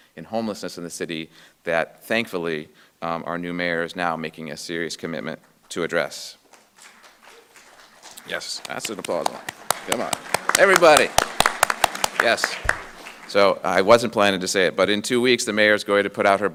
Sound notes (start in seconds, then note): 6.4 audience clapping